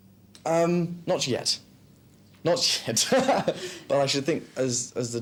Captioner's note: laughs